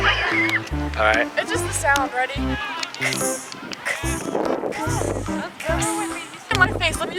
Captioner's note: Minecraft noises